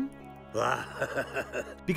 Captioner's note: laughing